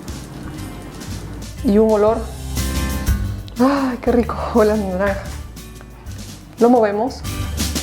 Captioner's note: smelling deeply